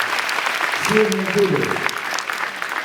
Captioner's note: applauds